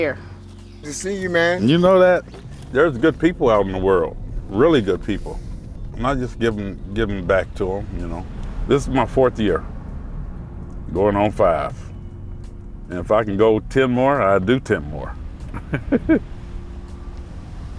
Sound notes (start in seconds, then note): 15.5 laughs